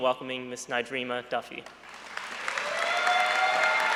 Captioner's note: applause